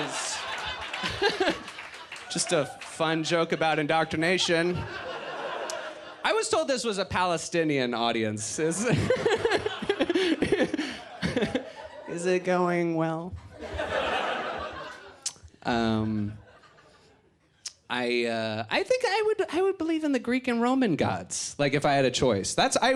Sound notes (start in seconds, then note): 8.8 laughs; 13.4 audience laughs